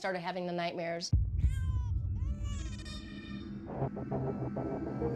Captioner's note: crying